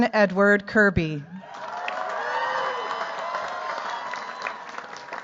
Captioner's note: cheers, applause